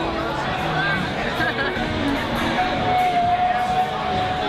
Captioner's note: crowd chattering